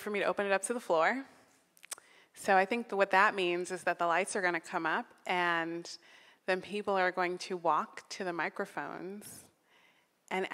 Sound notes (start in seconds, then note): none